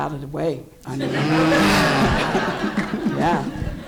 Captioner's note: audience laughs